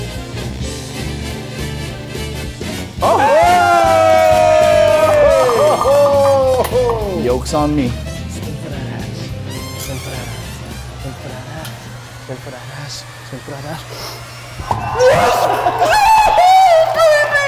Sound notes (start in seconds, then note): 0.1 exciting music; 3.0 crew cheers; 11.7 tense music